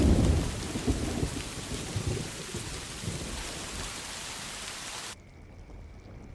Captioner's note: rain